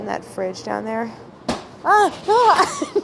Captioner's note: laughing